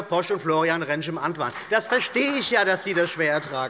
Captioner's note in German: Beifall bei der CDU und dem BÜNDNIS 90/DIE GRÜNEN